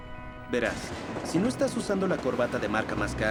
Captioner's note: voiceover